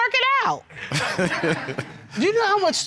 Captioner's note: laughs